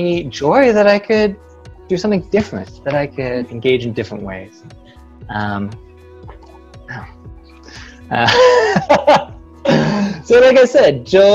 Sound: laughter

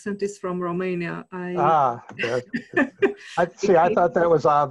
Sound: both laughs

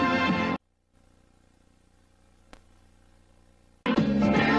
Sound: TV static

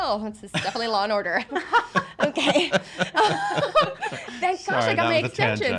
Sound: laughing

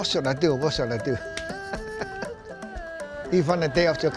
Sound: laughs

